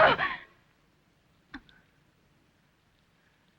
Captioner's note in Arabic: إلسا تصرخ